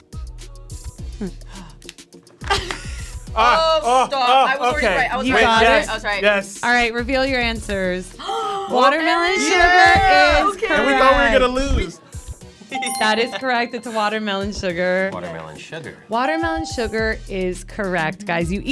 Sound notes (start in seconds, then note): 1.2 gasping; 1.2 laughing